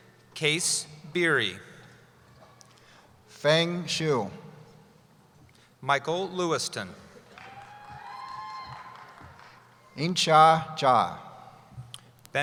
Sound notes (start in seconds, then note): 7.3 cheering